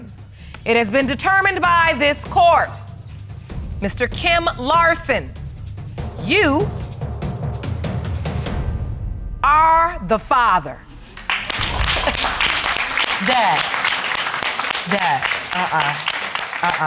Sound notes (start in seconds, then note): 11.1 audience applauding